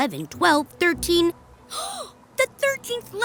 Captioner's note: gasps